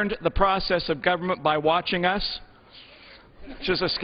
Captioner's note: laughter